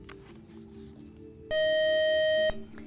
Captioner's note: buzzer